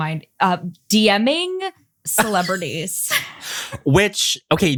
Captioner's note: laugh